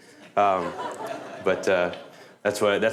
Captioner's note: laughter